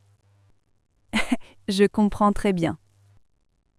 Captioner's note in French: rire